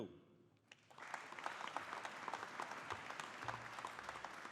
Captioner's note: audience applauding